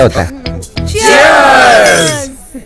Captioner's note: Glass clinking